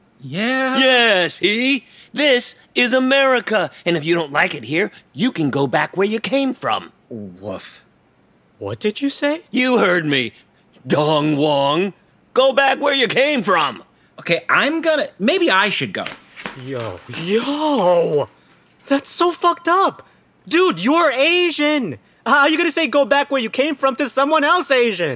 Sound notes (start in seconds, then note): 15.9 Footsteps as Russ hurries away